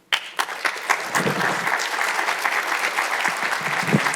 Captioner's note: audience applauds